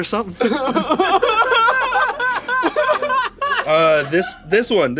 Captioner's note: everyone laughs